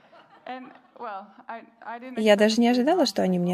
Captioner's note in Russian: Смех